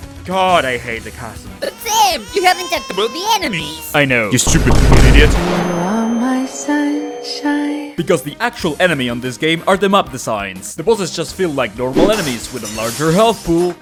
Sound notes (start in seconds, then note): 1.6 crybaby noises